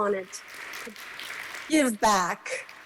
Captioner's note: applause